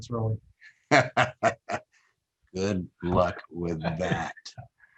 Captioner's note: laughs